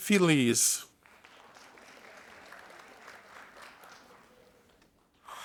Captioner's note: audience applauding